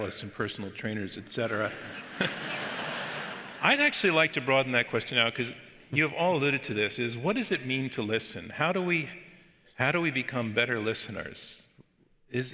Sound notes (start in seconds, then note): 1.5 audience laughs